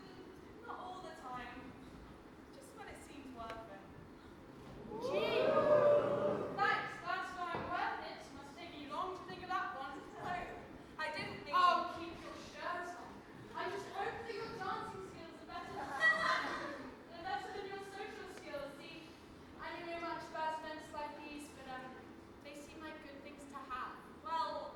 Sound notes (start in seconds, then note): 4.8 audience: wooooo; 15.8 audience laughs